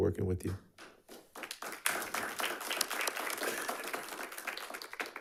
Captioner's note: audience applauding